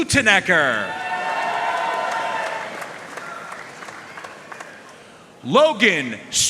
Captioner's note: audience cheering and applauding